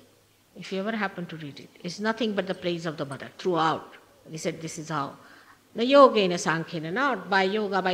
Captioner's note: sanskrit